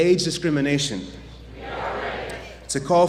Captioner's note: audience chants "We are ready"